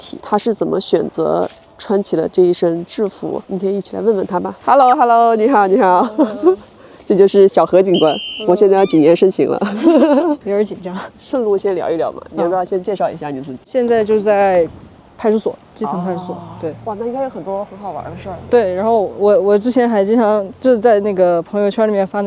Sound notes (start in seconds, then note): 8.3 laughs